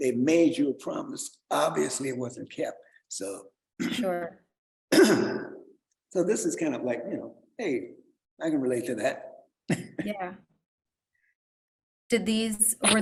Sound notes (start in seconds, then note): 4.9 clears throat; 9.7 chuckles